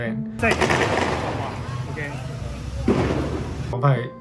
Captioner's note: loud gunshots